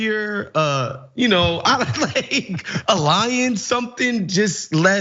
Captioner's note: laugh